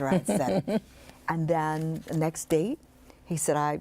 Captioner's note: laughs